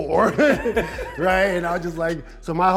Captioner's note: laughing